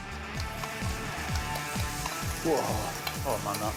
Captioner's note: sizzles